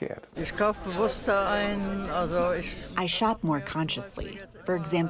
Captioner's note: through translator